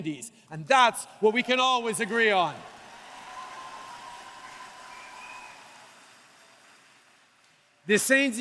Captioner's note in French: Acclamations et applaudissements